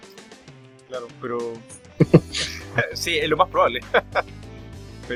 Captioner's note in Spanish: risas